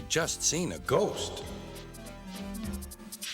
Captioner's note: echoes